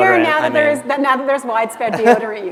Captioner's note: laughter